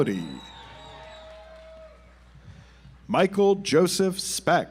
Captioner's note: audience applauds